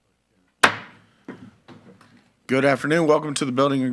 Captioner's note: gavel clacks